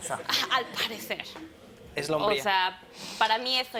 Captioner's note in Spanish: Risas